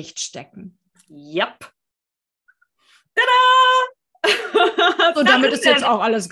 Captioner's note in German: lachen